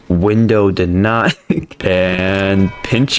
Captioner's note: laughs to myself